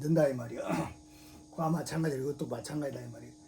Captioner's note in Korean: 목을 가다듬음